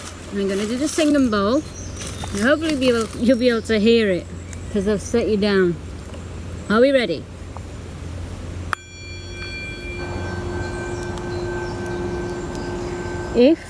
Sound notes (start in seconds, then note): 0.0 leaves rustling; 8.7 bowl chiming; 10.6 birds chirping